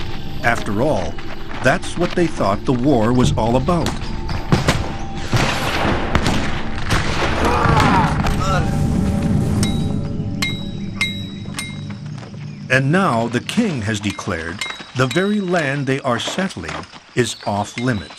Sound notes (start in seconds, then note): 5.2 guns fire; 10.3 hammers clink